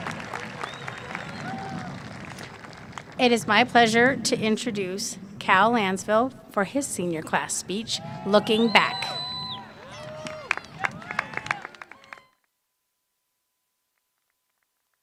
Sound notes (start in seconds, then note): 0.0 applause